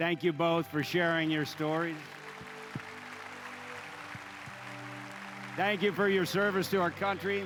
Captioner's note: applause